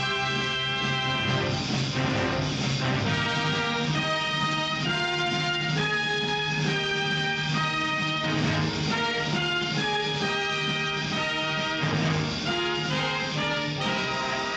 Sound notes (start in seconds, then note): none